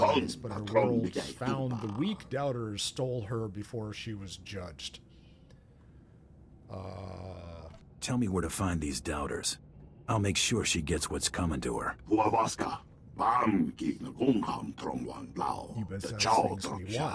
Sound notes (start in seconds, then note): 13.9 speaking foreign language